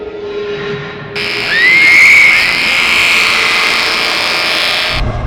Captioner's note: screaming